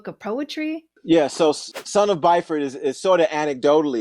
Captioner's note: whooshing sound